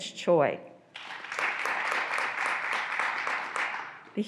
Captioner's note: graduands applauding